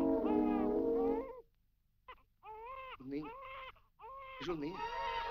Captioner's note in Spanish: baby crying